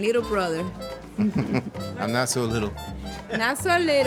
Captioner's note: chuckles